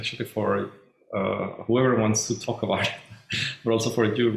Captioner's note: chuckles